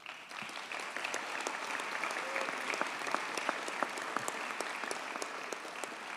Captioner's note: audience cheers and applauds